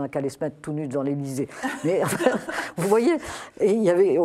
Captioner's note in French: rires